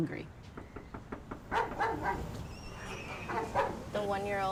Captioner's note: knocks on door; dog barks